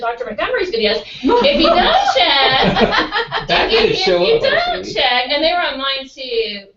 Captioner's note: laugh